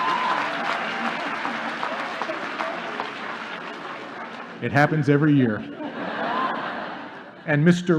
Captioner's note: wild applause